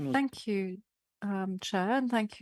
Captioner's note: speaking French